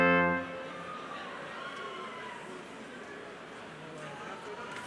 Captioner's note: crowd chattering